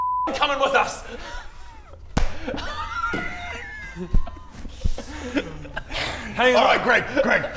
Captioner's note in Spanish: Risas contagiosas